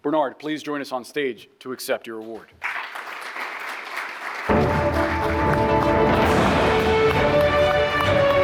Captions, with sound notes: Bernard, please join us on stage to accept your award. (audience applauding) (bright music)